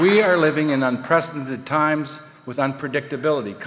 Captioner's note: applause